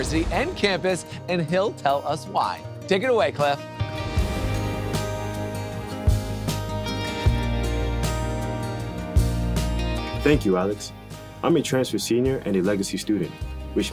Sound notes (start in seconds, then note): 0.0 graphics whoosh; 3.5 gentle music intensifies; 4.0 graphics whoosh